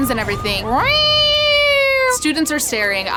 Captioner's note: mouths Siren Noise